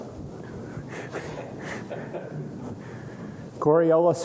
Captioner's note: laughter